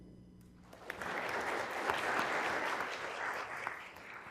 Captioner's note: applause